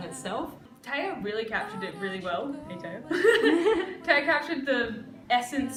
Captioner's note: laughter